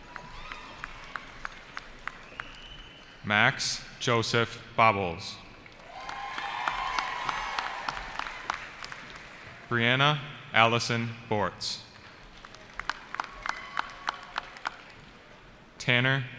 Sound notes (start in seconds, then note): 0.0 cheering; 5.7 cheering; 11.9 applause